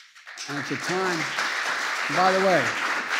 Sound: applause

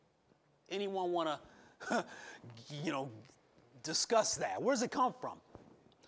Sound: chuckling

